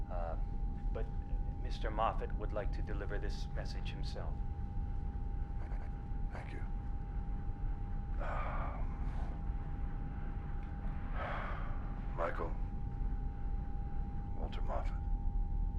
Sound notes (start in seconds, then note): 8.1 sighs